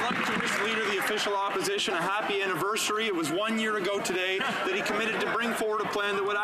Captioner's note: some Applause